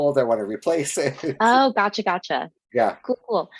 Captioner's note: laughs